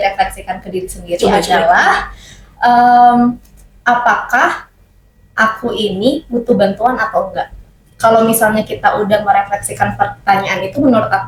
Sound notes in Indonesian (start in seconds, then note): none